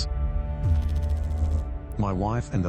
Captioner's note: electrical noise